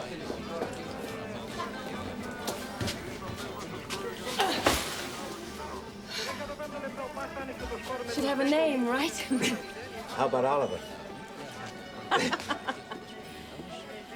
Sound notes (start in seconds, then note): 4.0 grunts; 12.0 laughs